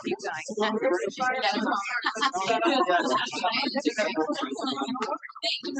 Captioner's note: participants chattering